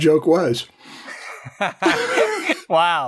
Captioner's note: laughter